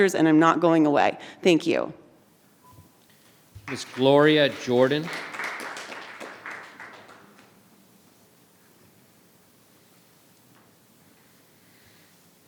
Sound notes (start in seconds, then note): 5.8 audience claps